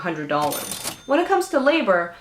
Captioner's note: kaching Sound